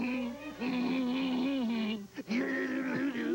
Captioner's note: grunting